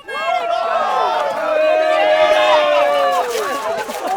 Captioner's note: crowd cheering